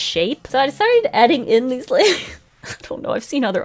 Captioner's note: laughs